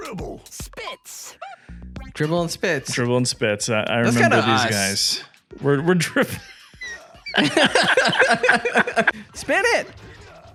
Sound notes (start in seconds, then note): 6.0 both laughing